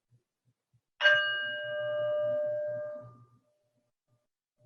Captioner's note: bell Rings